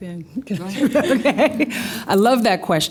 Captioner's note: laughs